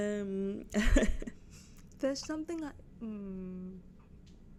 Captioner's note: laughs awkwardly